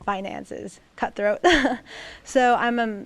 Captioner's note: laughter